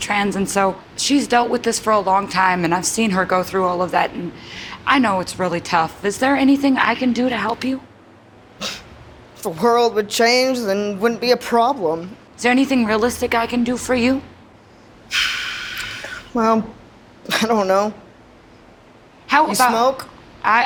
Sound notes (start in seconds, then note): 15.1 sighs